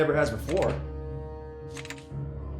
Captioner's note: breakers flipping